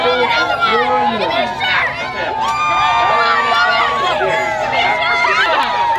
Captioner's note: cheering crowd